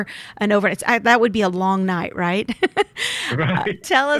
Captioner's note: laughs